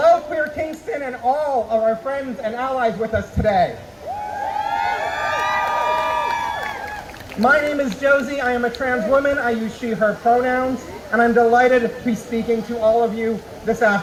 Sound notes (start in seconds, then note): 4.0 crowd cheering